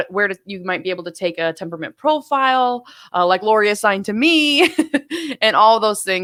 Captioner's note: laughing